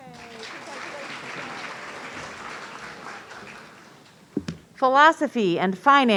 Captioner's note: audience applauding